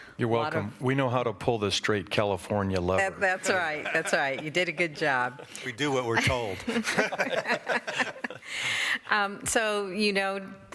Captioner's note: laughter